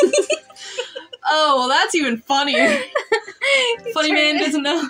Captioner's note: chuckle; giggle; giggle